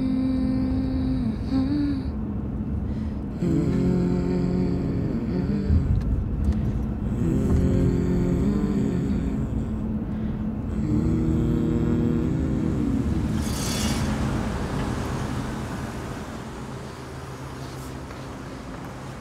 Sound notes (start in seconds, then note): 3.5 passenger and driver humming; 13.5 car engine roaring